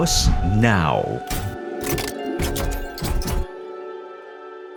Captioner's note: metals clanking